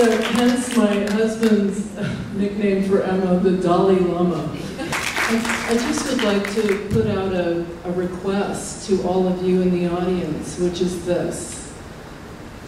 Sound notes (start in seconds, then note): 4.6 laughter and applause